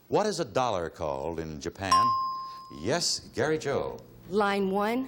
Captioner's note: ding